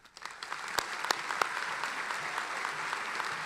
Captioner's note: applauding